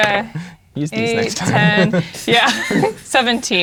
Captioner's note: laughs